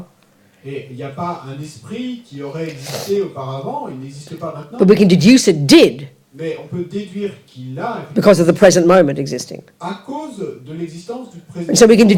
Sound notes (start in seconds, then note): 0.1 audience member speaks in French; 6.1 audience member speaks in French; 10.1 audience member speaks in French